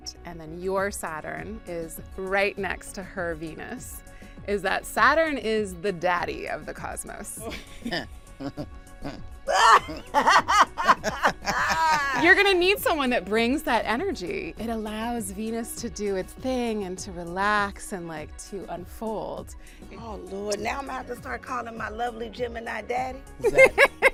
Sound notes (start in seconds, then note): 7.6 laughing